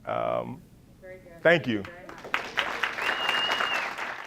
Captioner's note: congregation claps